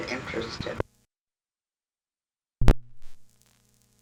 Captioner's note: audio stops